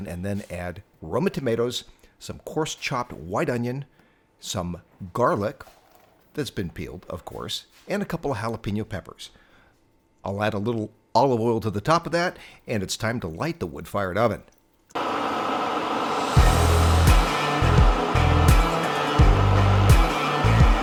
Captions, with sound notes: and then add roma tomatoes, some coarse chopped white onion, some garlic that's been peeled of course, and a couple of jalapeno peppers. I'll add a little olive oil to the top of that and it's time to light the wood-fired oven. (intense air sound) (high energy rock music)